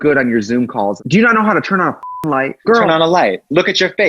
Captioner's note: beep